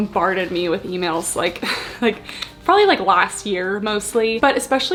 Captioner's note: chuckles